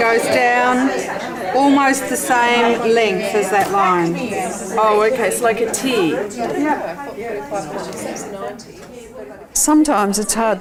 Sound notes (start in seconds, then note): 6.6 participant chatter